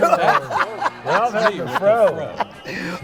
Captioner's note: laughing